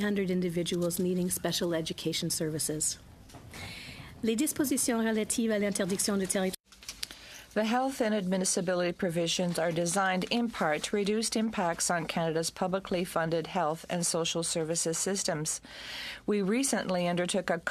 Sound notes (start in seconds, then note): 7.4 speaking in french